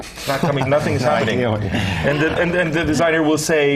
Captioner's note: laugh